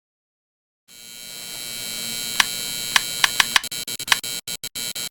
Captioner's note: electronic buzzing